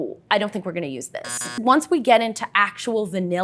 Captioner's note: buzzer sounds